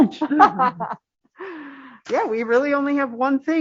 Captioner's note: laughter